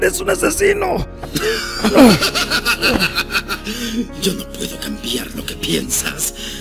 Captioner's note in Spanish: risas